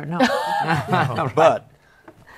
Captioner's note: laughter